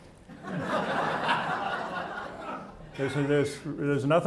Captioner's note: audience laughing